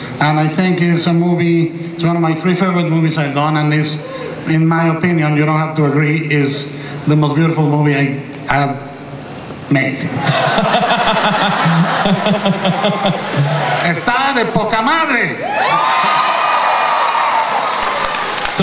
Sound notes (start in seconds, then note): 10.2 laughs; 14.0 speaks in Spanish; 15.3 audience cheers